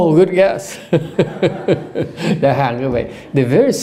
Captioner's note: laughter